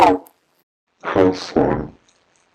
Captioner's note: in a deeper voice